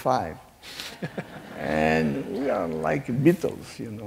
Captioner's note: laughing